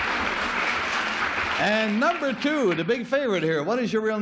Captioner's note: applause